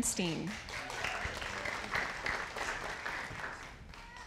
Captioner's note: audience applauding